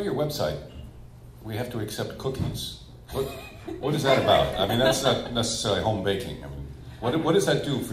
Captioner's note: laughs